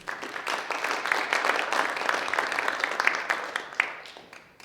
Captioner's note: audience applauding